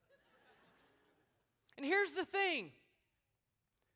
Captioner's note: laughter